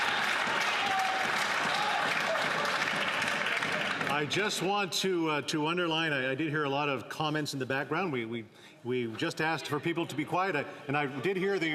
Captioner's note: cheers and applause